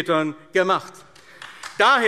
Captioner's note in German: Beifall AfD